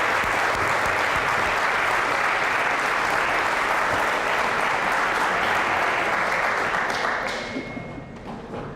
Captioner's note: applause, cheering; applause